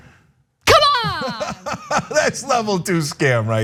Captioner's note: laugh